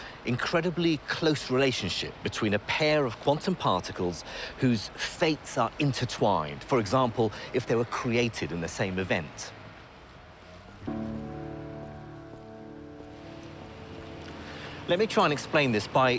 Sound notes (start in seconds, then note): 9.5 traffic hums; 10.7 contemplative music